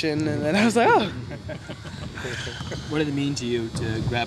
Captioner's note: laughing